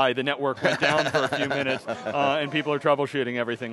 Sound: laughs

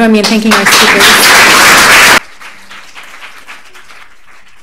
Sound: applause

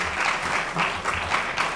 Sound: applause

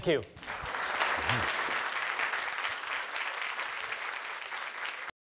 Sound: applause

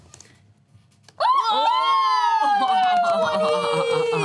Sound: cheering

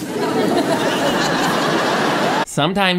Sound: audience laughing

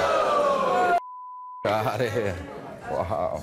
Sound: beep

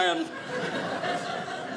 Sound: audience laughing

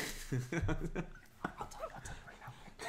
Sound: laughs

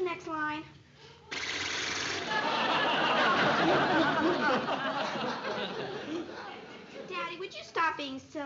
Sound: mimics horse blowing

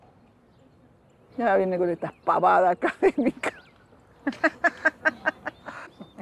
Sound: laughs

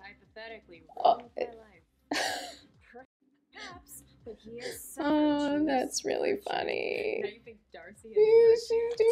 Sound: laughing

